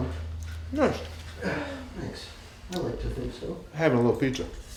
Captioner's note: laughs